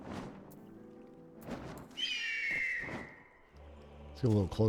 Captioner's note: whistle